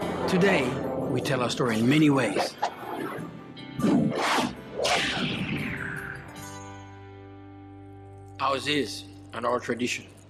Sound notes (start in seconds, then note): 0.0 soft music; 2.4 sharp electronic sounds